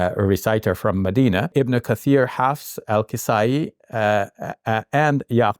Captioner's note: speaking in Arabic